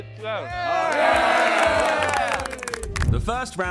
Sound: contestants clapping and cheering

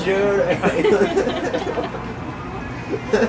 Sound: laughes

